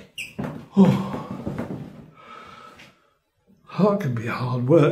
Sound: exhalation

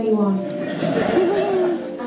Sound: laughter

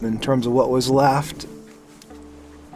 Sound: quiet sound of running water

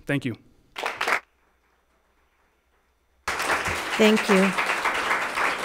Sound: audience applauds

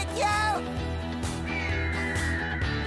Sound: bird screeches

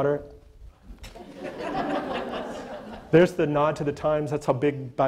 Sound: audience laughter

